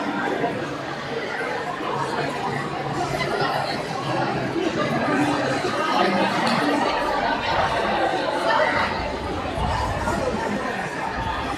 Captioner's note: crowd chattering